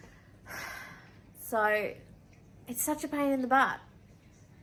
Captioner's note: sigh